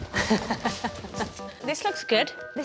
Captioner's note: Bloomfield laughs